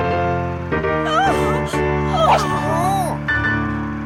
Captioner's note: audience member gasping; dramatic piano music